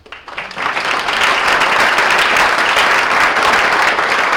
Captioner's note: audience applauds